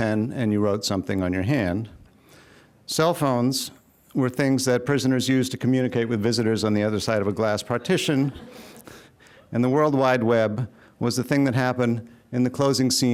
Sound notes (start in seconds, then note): 7.6 laughing